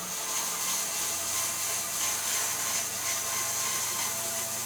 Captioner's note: machine buzzing